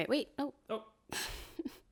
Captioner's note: laughs